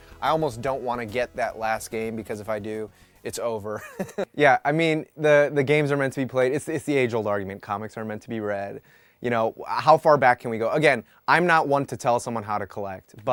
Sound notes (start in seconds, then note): 3.8 laughs